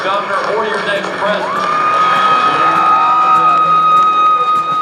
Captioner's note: crowd cheering